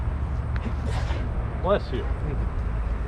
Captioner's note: student sneezes